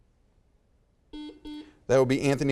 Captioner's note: buzzer beeps